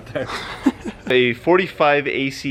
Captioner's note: laughing